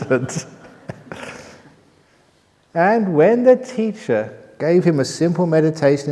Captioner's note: laughter